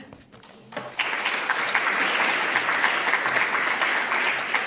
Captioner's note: applause